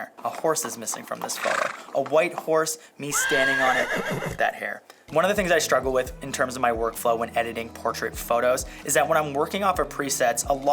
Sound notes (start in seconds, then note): 3.0 horse neighing; 3.1 horse nickering